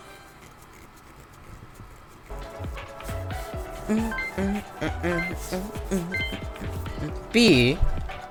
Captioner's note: humming